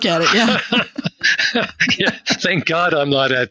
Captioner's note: both laughing